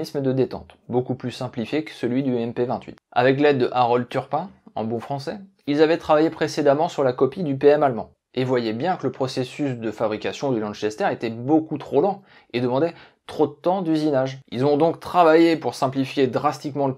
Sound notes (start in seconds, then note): 4.5 in good French